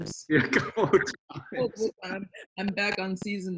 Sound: he laughs

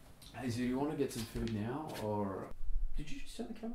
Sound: none

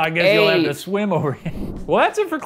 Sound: chuckle

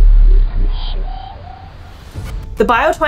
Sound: deep thrumming sound; quiet high pitched fluctuating sound

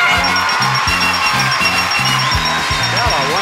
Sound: audience applauding; upbeat music

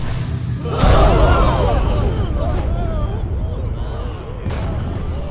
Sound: gasp

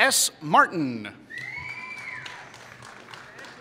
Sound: applause

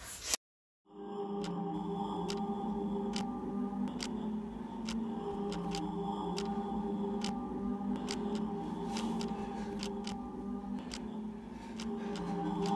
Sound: mysterious Clock Ticking

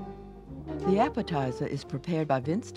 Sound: jazz music; voiceover

